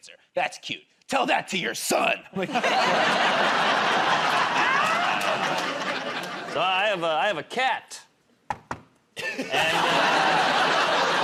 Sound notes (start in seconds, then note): 4.1 laughter; 8.5 knocks on table